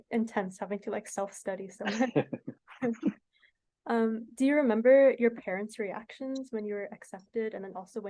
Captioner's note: laughter